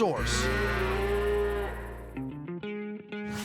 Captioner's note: cattle mooing